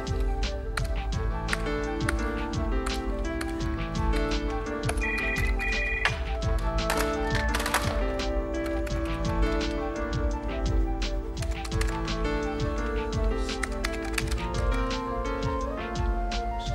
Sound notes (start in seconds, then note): 0.1 keyboard tapping; 4.8 receiver clattering down; 4.9 phone ringing; 8.0 mellow upbeat music